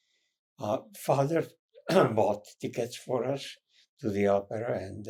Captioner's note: clears throat